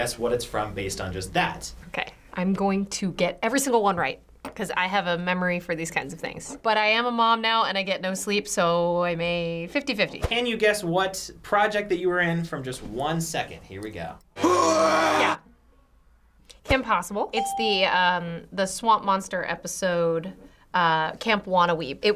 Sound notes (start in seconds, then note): 14.4 monster yelling; 17.3 ding